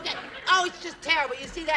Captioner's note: laughters